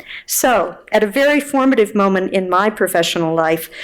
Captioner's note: none